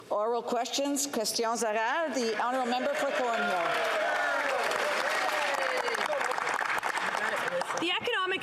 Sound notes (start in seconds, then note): 4.3 speaking French; 6.5 some Applause